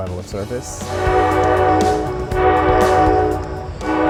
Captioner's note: horn blowing